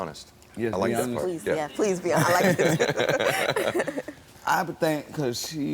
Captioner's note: laughs